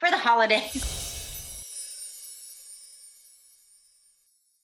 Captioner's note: chiming